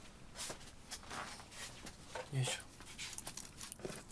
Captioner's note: man speaking native language